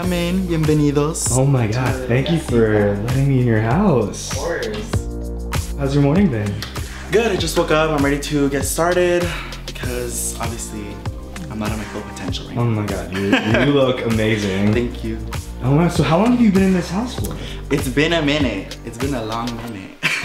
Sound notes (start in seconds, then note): 0.3 speaking foreign language; 11.3 murmurs